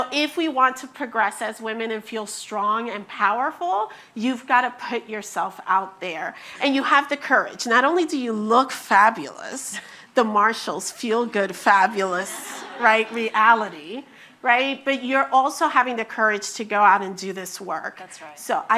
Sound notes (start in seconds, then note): 11.9 attendees laughing